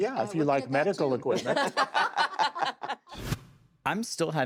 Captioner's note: all laughing